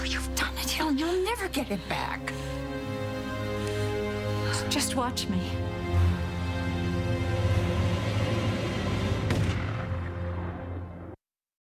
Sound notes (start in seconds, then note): 6.3 gunshot